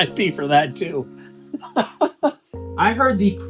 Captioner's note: laughing